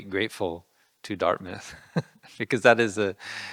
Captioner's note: laughing